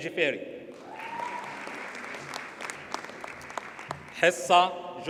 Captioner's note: audience cheers and applauds